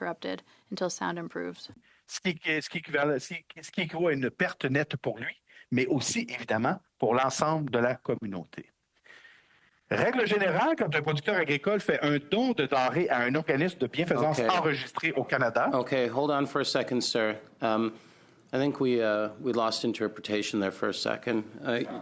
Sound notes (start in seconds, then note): 10.4 speaking French